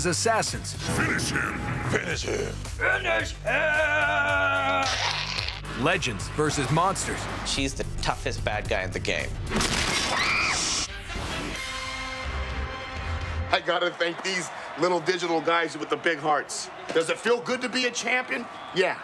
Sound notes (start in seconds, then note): 3.0 deep voice; 9.9 screaming